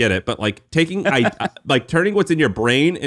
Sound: laughing

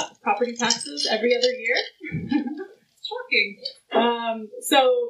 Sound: laughs

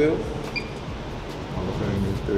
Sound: beep

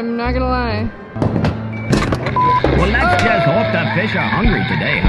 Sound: game noises

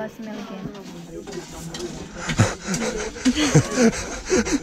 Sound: laughing

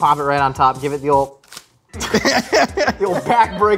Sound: burger crunches; laughs

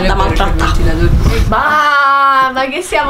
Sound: in-love-noises

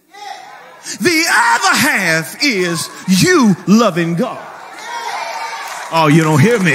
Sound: people cheering

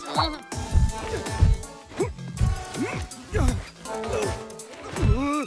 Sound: Gen groans

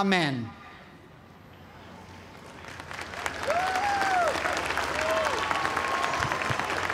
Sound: cheers and applause

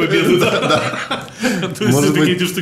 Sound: both laugh

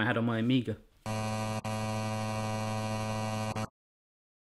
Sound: electronic buzzing

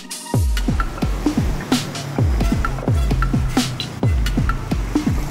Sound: street noise, music continues

